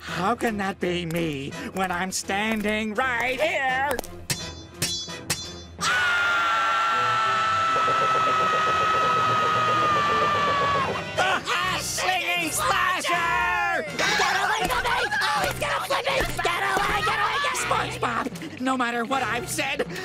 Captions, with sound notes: how can that be me, when I'm standing right here?! [tapping] [screaming] The Hash-Slinging Slasher! Get away, get away! He's gonna flip it! Get away, get away! Spongebob, no matter what I've said